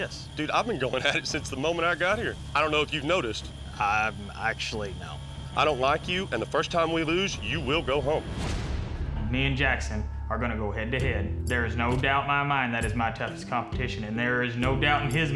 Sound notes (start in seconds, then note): none